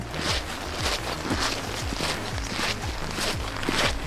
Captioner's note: crunching